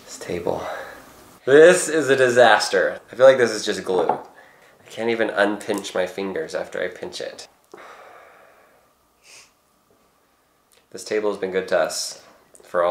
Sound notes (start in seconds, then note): none